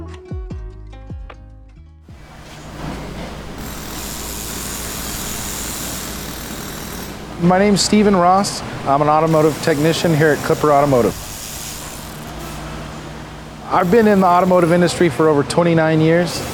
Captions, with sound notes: [Automotive sounds] My name is Stephen Ross. I'm an automotive technician her at Klipper Automotive. I've been in the automotive industry for over 29 years.